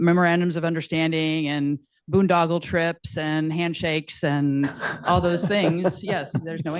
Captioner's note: laughter